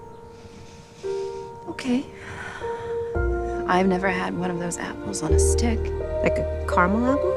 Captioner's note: sighs